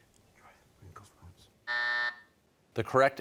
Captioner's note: buzzer sounds